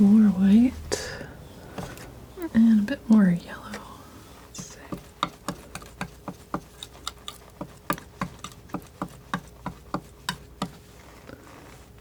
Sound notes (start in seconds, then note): 4.5 scratching